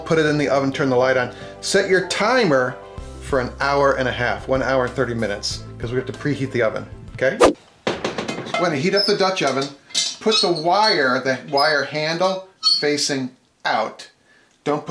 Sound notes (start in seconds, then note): 7.4 swooshing; 8.3 clanking; 10.0 squeaking